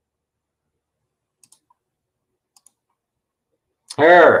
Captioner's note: mouse clicks